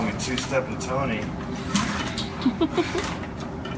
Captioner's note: laughing